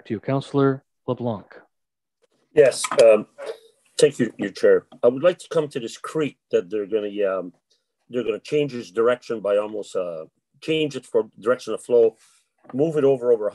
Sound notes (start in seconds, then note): none